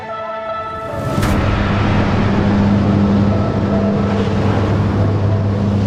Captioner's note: plane engine humming